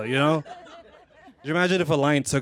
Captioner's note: laughter